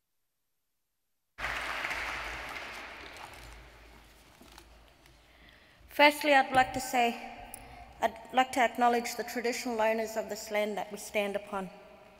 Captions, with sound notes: (audience applauds) – Firstly, I’d like to say, I’d like to acknowledge the traditional owners of this land that we stand upon.